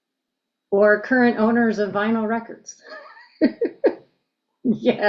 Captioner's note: laughs